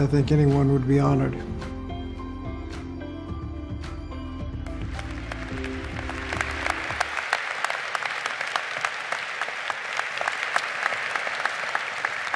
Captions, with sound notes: I think anyone would be honored. (audience applaud)